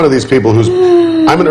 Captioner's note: gasps